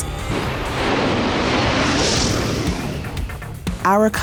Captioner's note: whooshing